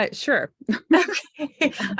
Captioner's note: laughing